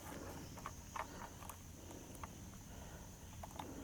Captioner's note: breathing